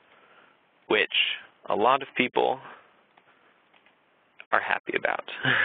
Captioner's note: laughs